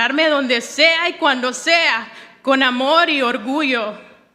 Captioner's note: none